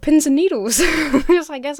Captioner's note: Emma laughs